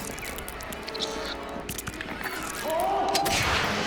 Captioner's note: liquid squishing